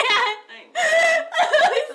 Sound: cries

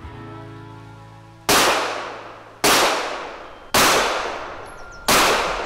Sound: gunshots blasting

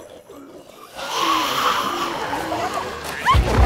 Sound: growling

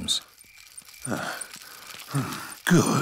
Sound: panting

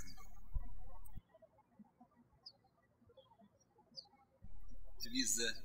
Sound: birds chirping

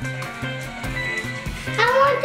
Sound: chiming

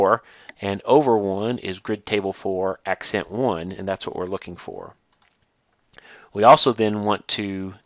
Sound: click

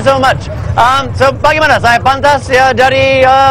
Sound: speaking indonesian

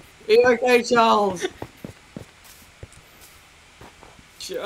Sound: laughs

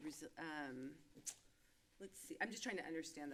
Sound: clicks tongue

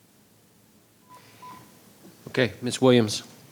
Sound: beeping

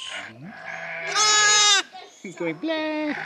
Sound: sheep scream

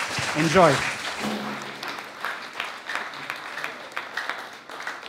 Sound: applause

